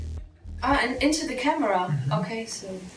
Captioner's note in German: englisch